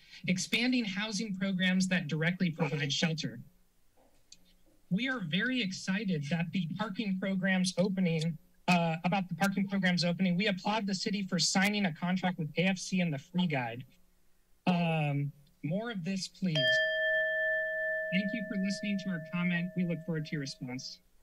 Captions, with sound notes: Expanding housing programs that directly provide shelter. We are very excited that the parking programs opening, uh, about the parking programs opening. We applaud the city for signing a contract with KFC and the Free Guide. Uhm, more of this, please [alarm sound] thank you for listening to our comment. We look forward to your response.